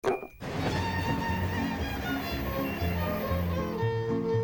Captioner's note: glass clinks; horn blaring; lively fiddle music